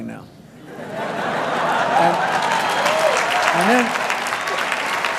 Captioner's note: applause